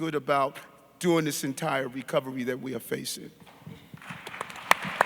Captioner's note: audience clapping